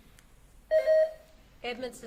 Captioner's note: buzzer beeps